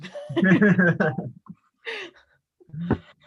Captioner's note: laughs